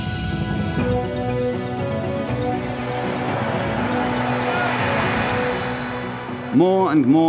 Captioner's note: serene music intensifies; upbeat music; crowd cheering